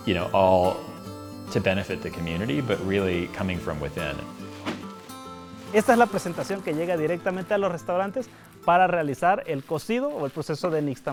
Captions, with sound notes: you know, all to benefit the community, but really coming from within. (speaking in foreign language)